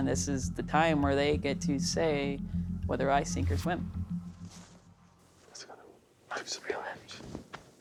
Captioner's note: none